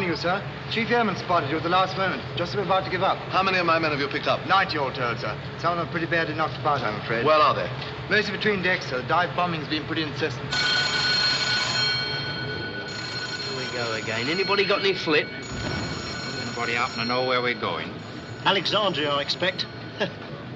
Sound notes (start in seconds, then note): 11.2 alarm